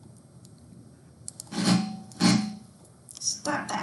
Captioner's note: metal grinding